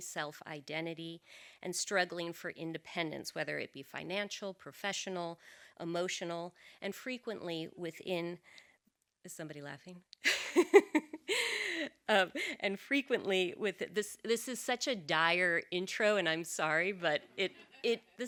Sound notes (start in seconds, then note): 10.3 laughs